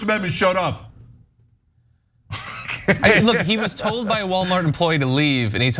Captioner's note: laugh